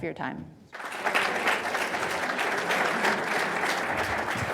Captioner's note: audience applauding